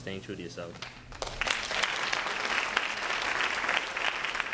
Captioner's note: applause